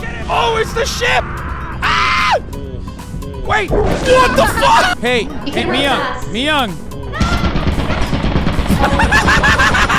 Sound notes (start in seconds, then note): 7.2 gunshots; 8.7 laughing